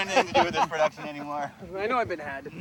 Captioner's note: laughs